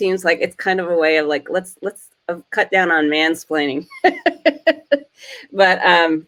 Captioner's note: laughs